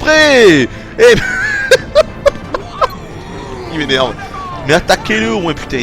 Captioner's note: laughs